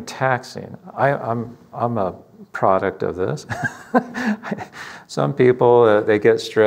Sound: laughs

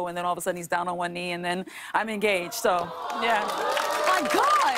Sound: audience aws

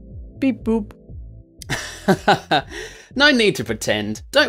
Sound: laughs

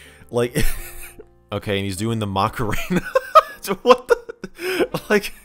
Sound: chuckles; laughing

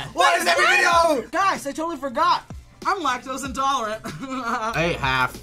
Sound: laughing

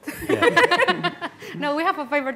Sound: laughing

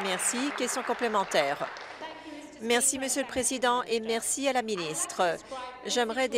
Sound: applause

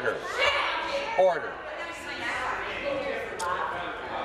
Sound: conversation din

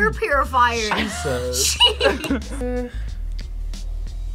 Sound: laughs

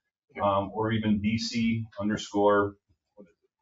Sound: speaks distantly

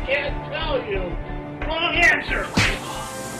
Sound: gunshot

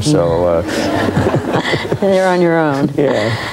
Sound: audience laughs

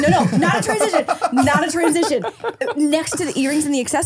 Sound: laughing

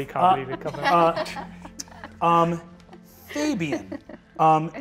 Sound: laughs

